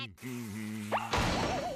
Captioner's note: humming